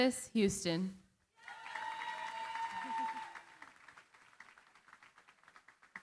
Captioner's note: cheering, applause